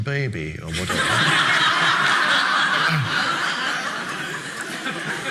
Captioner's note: audience laughing